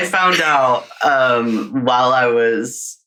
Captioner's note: laughing